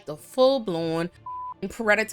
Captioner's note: beep